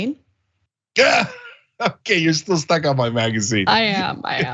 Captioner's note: laugh